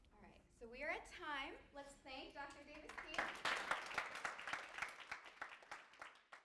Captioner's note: applause